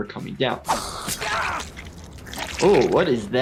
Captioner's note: blood sloshing; character screaming